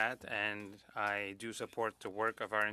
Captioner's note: speaking French